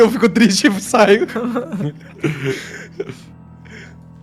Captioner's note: laughing